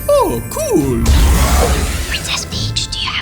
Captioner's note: mimi roars